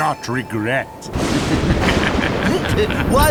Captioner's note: thunderclap; evil laugh